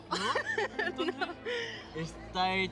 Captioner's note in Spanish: Riendo; Ríe